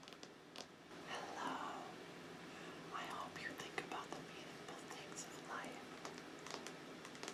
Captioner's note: whispers